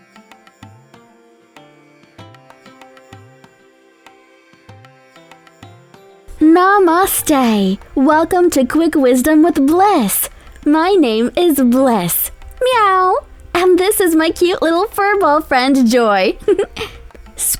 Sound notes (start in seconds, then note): 12.6 Joy meows; 16.3 giggles